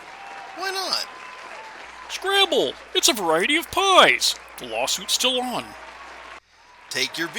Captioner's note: applause track loops back to start